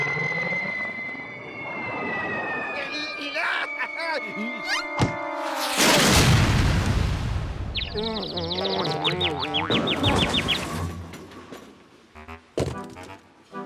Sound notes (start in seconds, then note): 7.7 cuckoo birds chirping